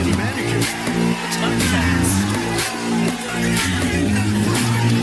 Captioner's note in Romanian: Aplauze